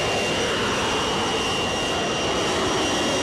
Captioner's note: plane noise